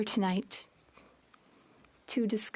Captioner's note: speaking French